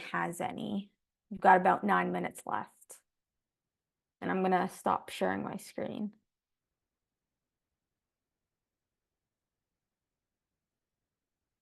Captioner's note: silence